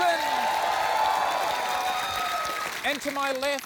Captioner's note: cheering and applause